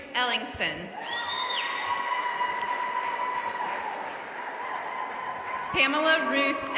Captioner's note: audience cheering and applauding